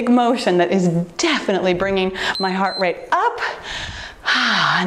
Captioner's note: timer beeps